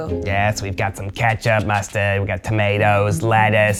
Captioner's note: in puppet voice